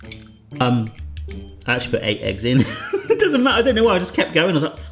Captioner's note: laughs